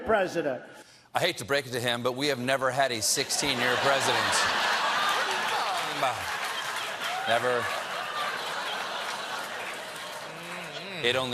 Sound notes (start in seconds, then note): 3.4 laughter